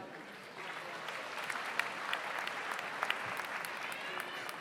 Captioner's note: audience applauds